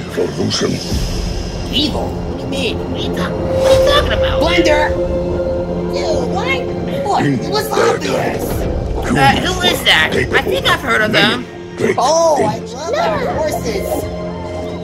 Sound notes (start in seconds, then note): none